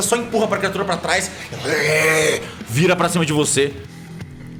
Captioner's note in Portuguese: Grrrrrr